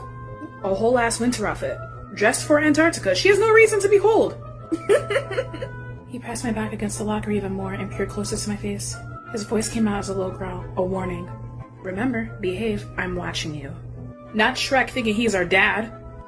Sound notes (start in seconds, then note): 4.7 laughing again idfk i didn't make the audio